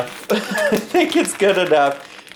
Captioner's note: laughs